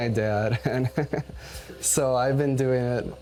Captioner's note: chuckles